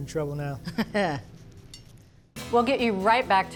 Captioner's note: chuckles